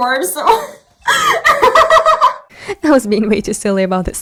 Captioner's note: laughing